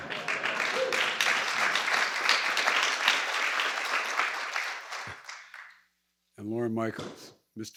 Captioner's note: laughter and applause